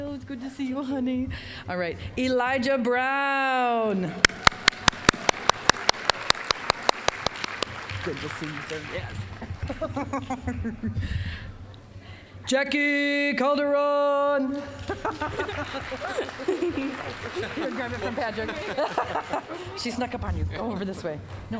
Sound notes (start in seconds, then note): 4.2 applause; 9.3 laughing; 14.6 applause; 14.8 both laughing